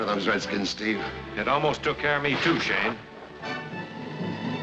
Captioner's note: gunshots